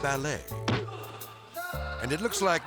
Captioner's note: kick thudding